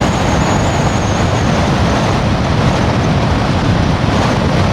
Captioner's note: blizzard storm sounds